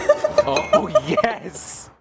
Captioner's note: laughter